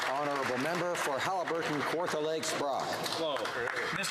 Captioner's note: some Applause